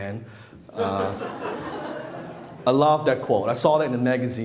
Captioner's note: laughing